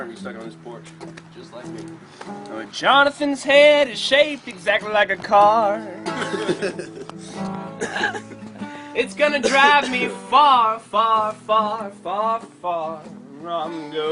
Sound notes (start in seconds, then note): 6.0 laughs; 7.6 coughing